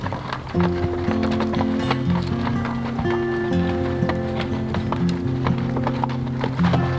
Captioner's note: horses clopping; gentle acoustic music